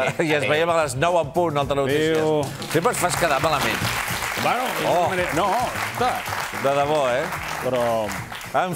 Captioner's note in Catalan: aplaudiments